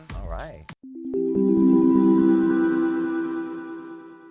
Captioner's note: chimes